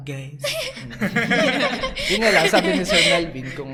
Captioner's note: laughs